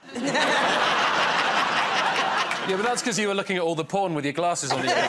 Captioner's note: laughter